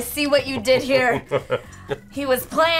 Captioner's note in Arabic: يضحك